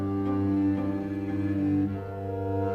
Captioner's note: none